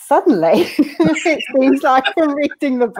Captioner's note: laughing